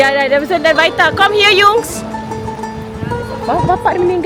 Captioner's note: speaking German